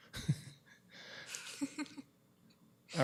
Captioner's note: laughs